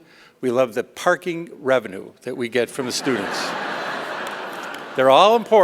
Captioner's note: laughter